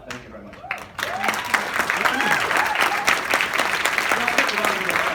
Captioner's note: audience applauds